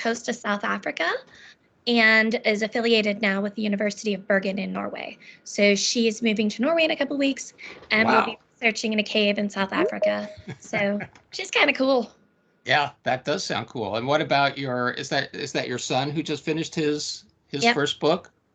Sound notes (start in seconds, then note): 9.8 beeping; 10.2 laughing